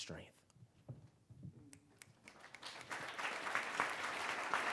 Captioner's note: applause